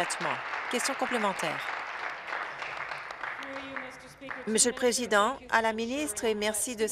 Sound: applause

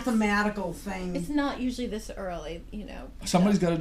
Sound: voiceover

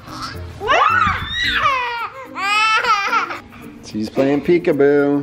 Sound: toddler squeals

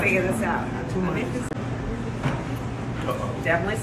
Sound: Kamala speaks faintly

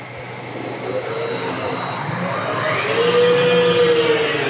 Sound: robot whirring

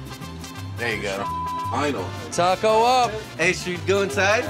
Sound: beep

